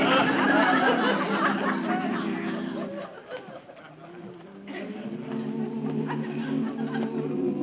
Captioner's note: audience chuckling; quiet music continuing